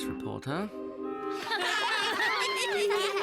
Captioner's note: laughing